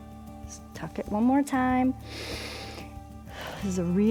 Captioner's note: inhales and exhales